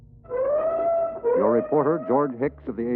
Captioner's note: siren wailing